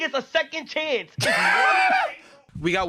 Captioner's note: laughs